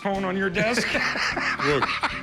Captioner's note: laughs